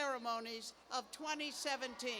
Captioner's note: cheers and applause